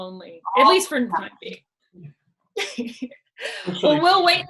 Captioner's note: laughs